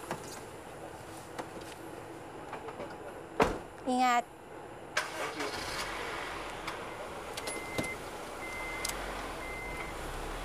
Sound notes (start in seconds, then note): 4.9 car engine starts; 7.4 car beeping